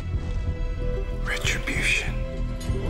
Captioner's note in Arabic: همسات